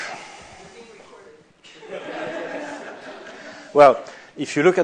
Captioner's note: laughter